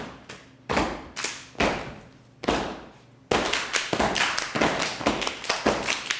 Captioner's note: hands smacking; feet thudding